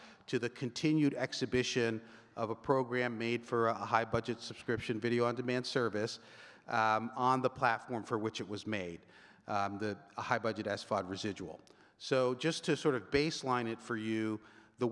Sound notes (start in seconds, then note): none